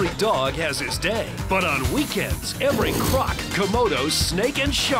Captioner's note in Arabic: زئير التماسيح